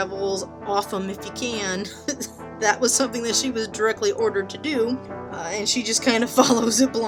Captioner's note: laughing